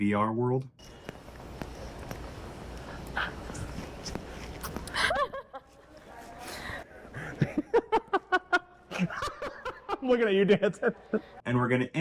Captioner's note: laughter